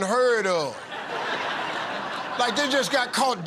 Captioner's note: laughter